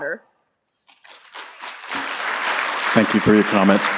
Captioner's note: applause